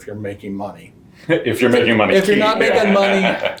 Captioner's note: laughing